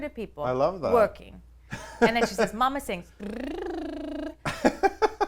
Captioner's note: lip trills